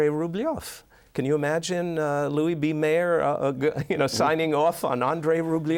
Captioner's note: chuckles